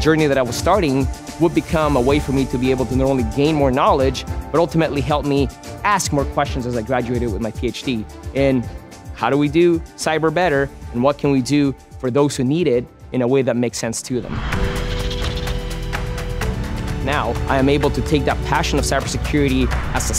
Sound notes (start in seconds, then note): 14.5 upbeat music; 14.6 pencil scratching